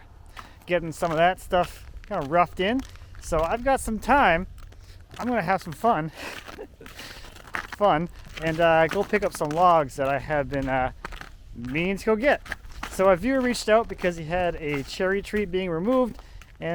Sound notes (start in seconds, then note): 6.3 laughs